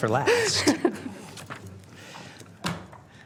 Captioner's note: laughter